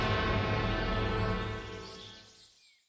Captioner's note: birds chirping; tense suspenseful music fades